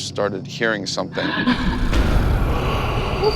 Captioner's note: eerie sounds